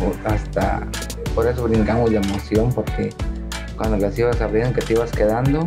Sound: speaking Spanish

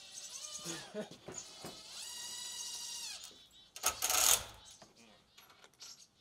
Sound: drill whirring; chuckles; drill whirring

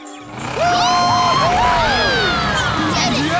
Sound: cheering

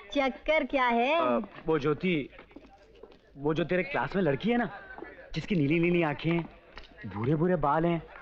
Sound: none

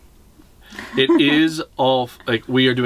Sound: lady laughing

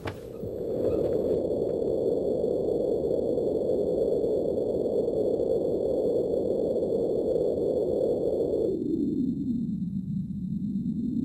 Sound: eerie space echoes

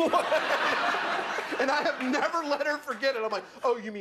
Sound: laughter

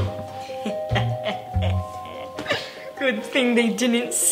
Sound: laughs

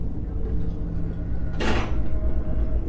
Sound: tense music; door closing

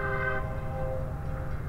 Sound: train whistle

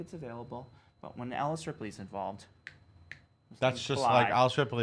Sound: fingers snap

